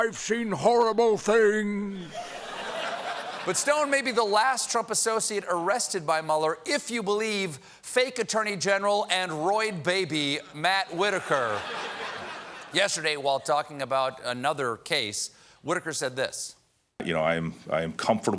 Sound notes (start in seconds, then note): 11.0 laughter